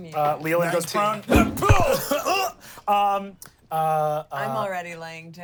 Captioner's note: grunts